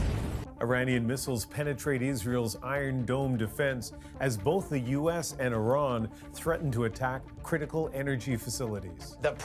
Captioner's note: bombing